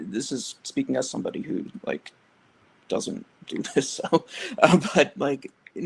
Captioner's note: laughs